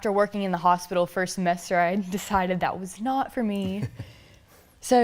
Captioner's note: laughs